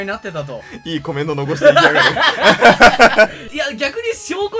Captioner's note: laugh